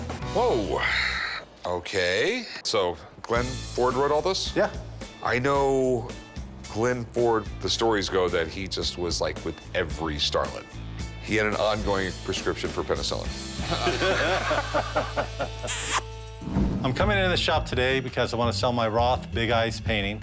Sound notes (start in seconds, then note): 13.6 laughter; 15.6 kissing noise